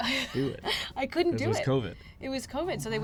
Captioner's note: laughs